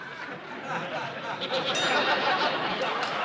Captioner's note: bell rings